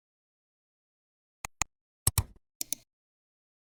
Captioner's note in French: Bruits de 3 clics différents